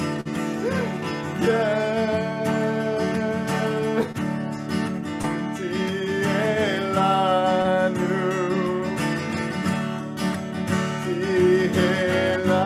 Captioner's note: continues to sing, breaks into tears